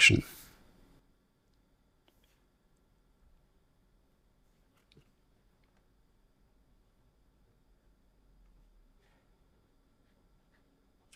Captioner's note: silence